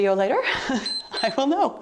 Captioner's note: timer beeps